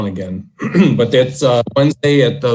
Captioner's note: throat clearing